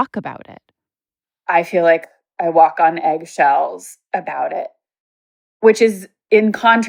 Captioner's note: on Zoom call